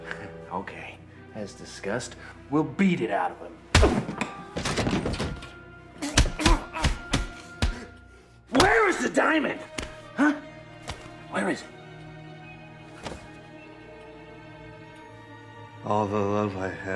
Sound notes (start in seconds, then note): 3.2 smacking; 11.9 dramatic music